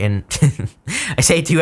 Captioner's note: laughs